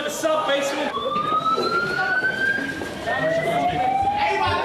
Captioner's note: sirens wailing